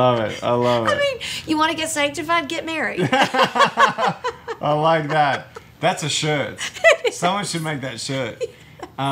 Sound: laughter

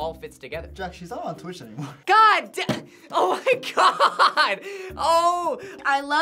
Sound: laughs

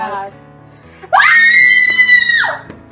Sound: screams

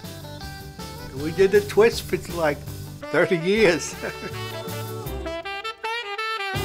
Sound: laughs

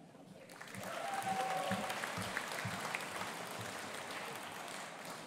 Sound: audience applauding

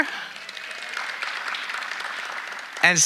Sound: audience applauding

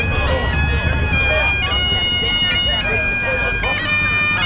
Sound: people chatting

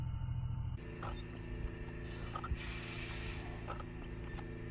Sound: machinery

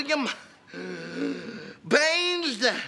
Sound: gasping

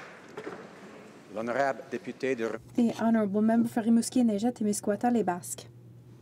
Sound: applause; speaking French

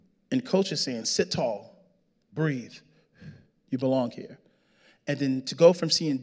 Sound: exhales

